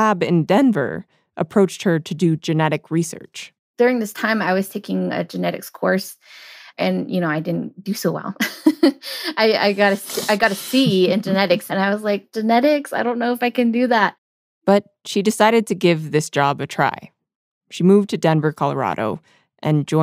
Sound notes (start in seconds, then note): 10.2 both laugh